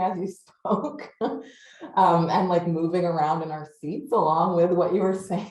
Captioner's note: laughs